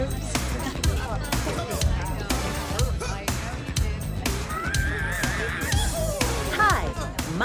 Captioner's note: indistinct Chatter